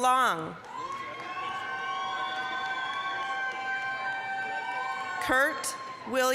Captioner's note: applause, cheering